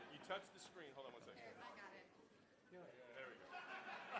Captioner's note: voiceover; laughing